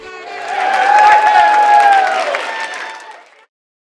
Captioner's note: cheers and applause